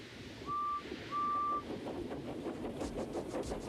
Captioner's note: toots